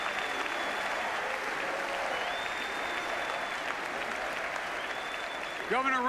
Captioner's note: applause and "USA" chants